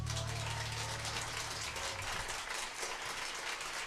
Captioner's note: applause